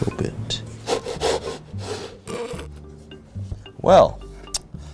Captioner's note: wood scraping